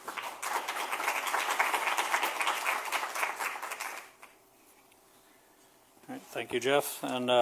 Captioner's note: applause